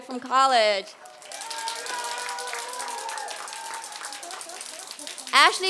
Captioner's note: applause